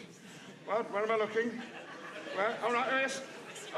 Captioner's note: audience laughing